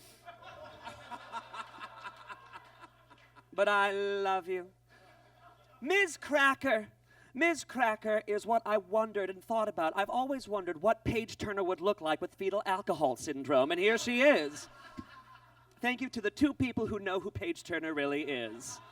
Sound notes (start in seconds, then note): 0.1 audience laughs; 14.3 audience laughs